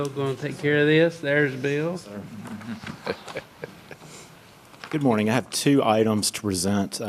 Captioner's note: laughter